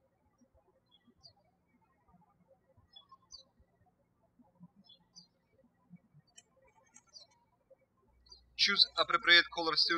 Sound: birds chirping

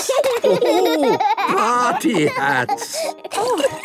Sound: laughing

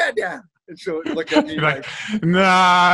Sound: laughs

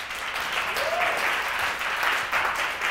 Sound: applause

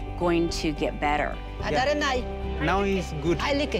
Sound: speaking foreign language

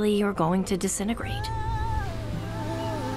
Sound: seagulls calling

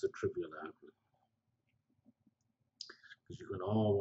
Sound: pause

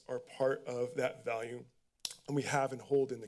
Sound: clicks tongue

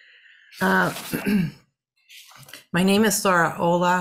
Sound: clearing throat

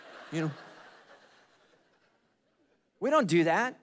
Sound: congregation laughing

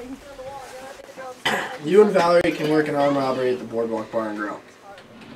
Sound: clears throat

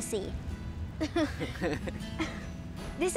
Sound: both chuckle

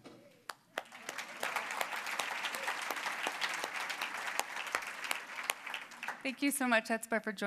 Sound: applause

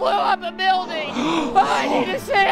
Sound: gasp

